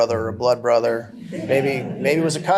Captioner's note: laughter